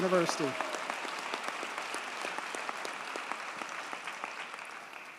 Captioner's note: audience cheers and applauds